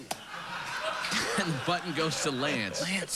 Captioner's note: laughter